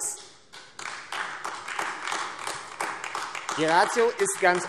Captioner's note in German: Beifall AfD